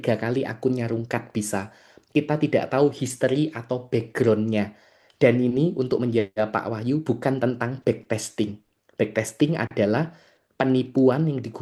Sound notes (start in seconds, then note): none